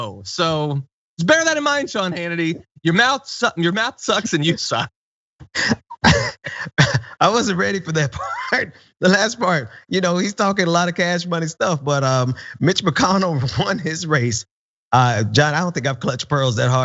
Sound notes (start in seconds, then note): 5.5 laugh